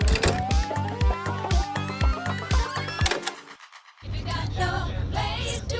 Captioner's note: tape fast forwarding; upbeat synth music; upbeat disco music